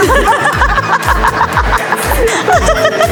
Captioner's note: laughing hysterically